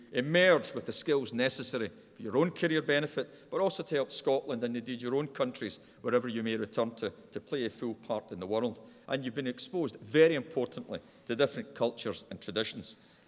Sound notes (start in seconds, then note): none